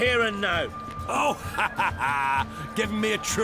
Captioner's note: mocking laugh